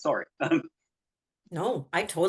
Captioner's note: chuckles